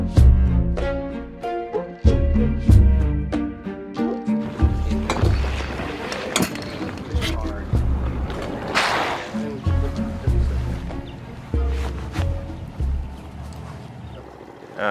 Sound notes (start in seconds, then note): 8.6 boat clangs; 9.4 gentle inquisitive music